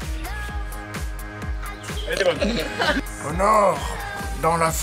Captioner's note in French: rires